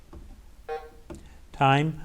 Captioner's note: bell dings